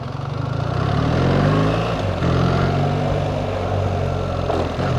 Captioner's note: engine thrum